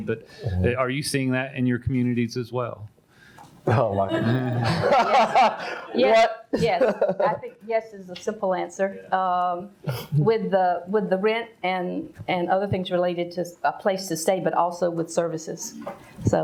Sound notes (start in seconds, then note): 3.7 all laugh